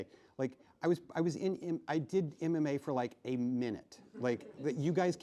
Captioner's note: laughing